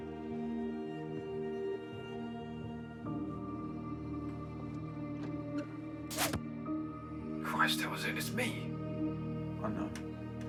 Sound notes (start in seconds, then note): 2.8 footsteps approaching; 6.1 crossbow bolt thudding; 6.1 crossbow firing; 6.1 door clicking open